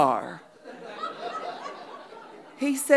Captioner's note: audience laughing